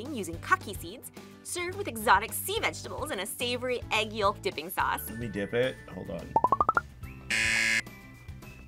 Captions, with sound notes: using kaki seeds, served with exotic sea vegetables and a savory egg yolk dipping sauce. - Let me dip it, hold on. (buzzer)